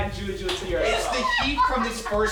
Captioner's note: laughing